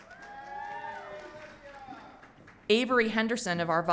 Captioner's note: audience cheering